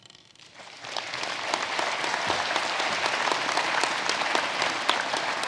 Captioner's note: audience applauding